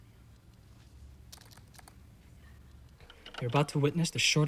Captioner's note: tapping keyboard